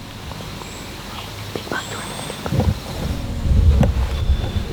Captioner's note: whispering